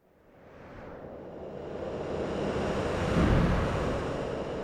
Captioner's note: wind whooshing